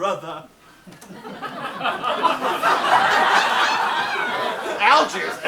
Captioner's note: audience laughs